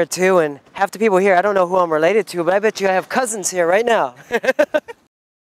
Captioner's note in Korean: 웃음